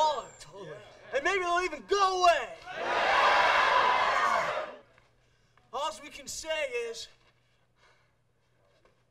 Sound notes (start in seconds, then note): 2.6 crowd cheers